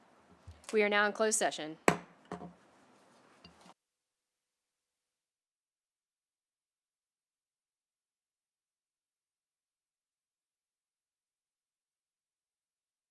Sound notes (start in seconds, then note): 1.7 gavel hitting dais; 2.7 silence